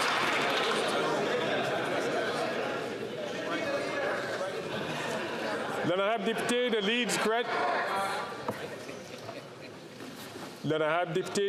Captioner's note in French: applaudissements